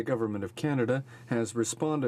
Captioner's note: speaking French